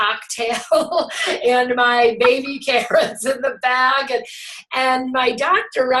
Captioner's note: laughs